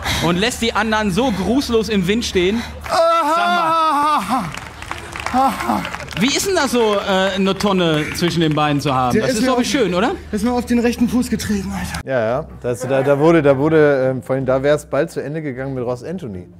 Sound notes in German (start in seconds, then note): 2.8 Applaus, er jammert